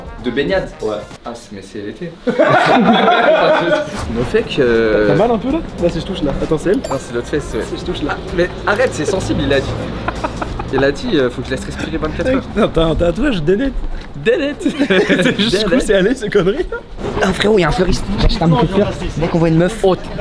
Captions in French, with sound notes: - De baignade ? - Ouais - Ah... Mais c’est lété... *rires* Le fait que... - T’as mal un peu là ? Là si j’touche là Attends, c’est elle ? - Nan c’est l’autre fesse ouais - Si j’touche là ? - Ah mais- Arrête, c’est sensible il a dit Il a dit faut que j’laisse respirer 24h - Mec Nan, t’as un tatouage donut - Donut ! *rires* - Jusqu’où c’est allé ces c*nneries - Oh frérot, y’a un fleuriste J’achète un bouquet de fleurs Dès qu'on voit une meuf - Oh !